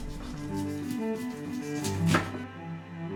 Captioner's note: sounds like cutting wood…